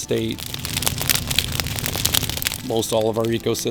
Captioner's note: fire burning